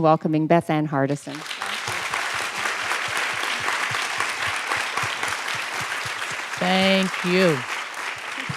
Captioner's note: applause